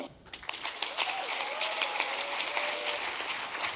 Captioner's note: crowd applauding